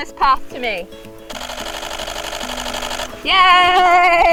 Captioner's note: camera shuttering rapidly